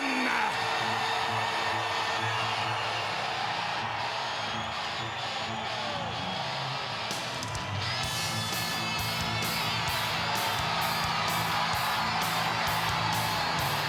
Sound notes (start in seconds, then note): 2.7 crowd cheering